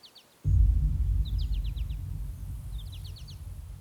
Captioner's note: booming